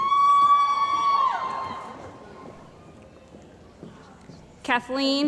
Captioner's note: cheering & Applause